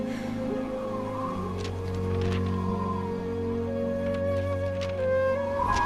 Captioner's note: wind whistling